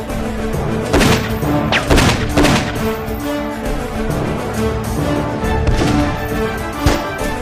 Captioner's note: gunshots